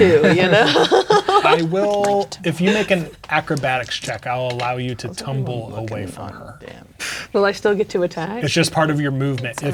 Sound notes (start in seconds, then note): 0.0 players laughing; 5.9 speaking quietly